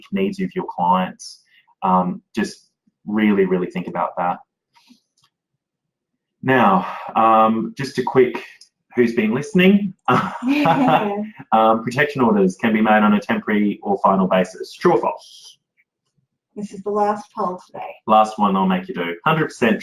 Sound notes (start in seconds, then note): 9.6 laughs